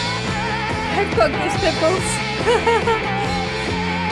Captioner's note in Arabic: ضحكة مكتومة